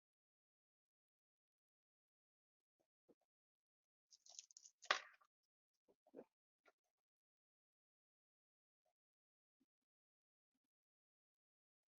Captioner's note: silence